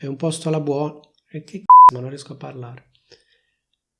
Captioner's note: beep